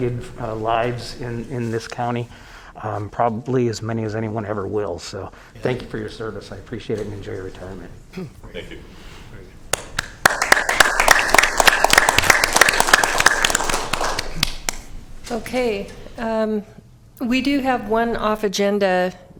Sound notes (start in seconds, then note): 12.3 applause